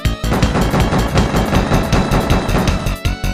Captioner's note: upbeat Style Music; rifle Shots; upbeat Style Music